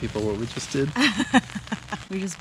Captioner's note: laughs